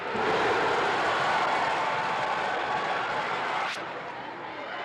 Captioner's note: crowd cheers